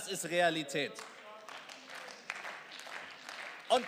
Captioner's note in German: Beifall